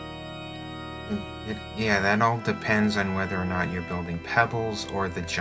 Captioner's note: stammers